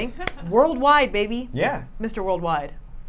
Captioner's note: claps hand